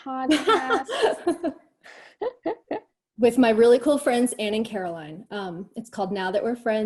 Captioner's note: laughs